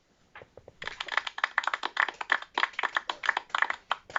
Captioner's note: some applause